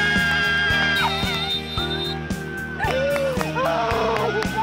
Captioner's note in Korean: 호루라기 소리